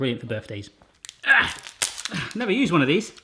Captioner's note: grunting